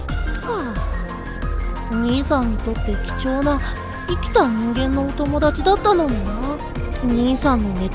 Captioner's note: sigh